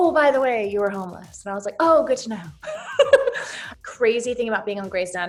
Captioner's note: laughs